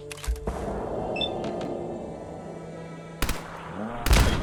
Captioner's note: machine beeping